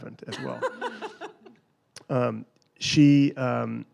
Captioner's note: laughs